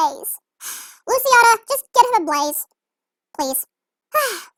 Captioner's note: sighs